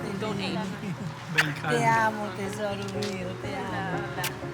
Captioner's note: grandmother speaking Spanish